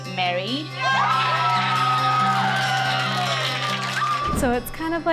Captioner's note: cheerleaders cheer